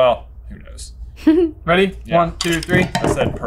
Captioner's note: chuckles